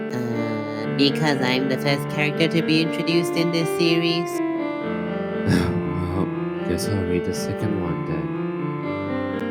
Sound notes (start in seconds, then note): 5.4 sighs